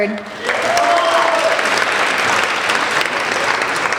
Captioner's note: applauding